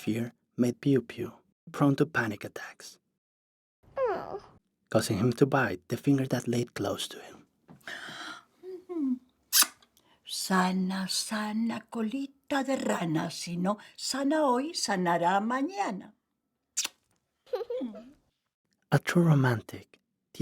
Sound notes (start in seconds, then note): 9.5 gasps; 17.5 giggles